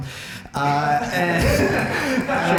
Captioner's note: laughter